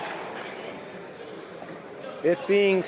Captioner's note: some applause